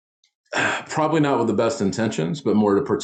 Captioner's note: sighs